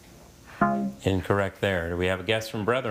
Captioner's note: text buzzing